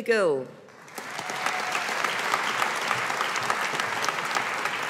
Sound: audience applauding

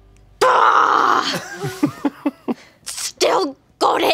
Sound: screams

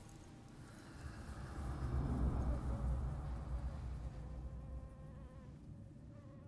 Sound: kasia breathing intensely

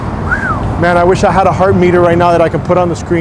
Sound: whistles

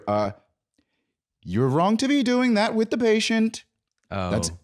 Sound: singsong

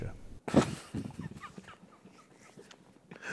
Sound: laughter

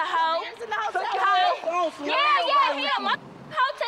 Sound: arguing

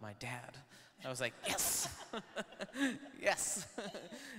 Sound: laughs; laughing

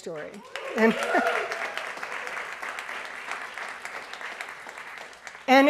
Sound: audience applauds

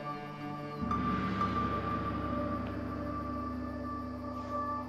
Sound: gong sounding

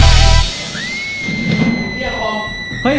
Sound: screaming

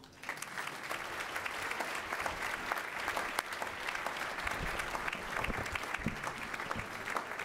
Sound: applause

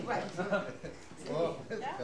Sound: laughter

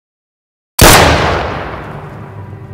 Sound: gunshot

